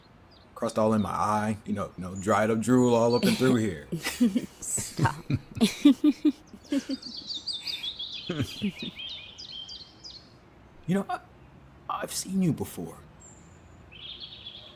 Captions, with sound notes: ..crust all in my eye, you know, dried up drool all up in through here. Stop. [Laughing] You know, I've seen you before.